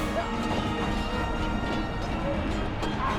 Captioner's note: screams